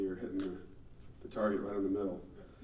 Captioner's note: none